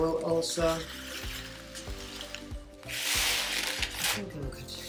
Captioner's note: pouring rocks